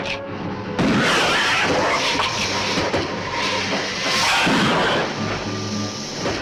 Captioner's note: gun firing; lizard hissing